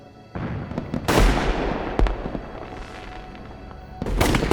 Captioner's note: fireworks booming